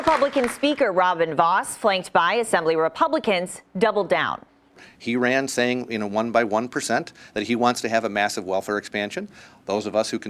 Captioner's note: applause